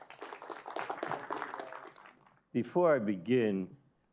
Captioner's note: audience applauding